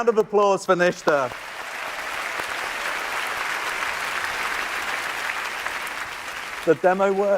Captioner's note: applause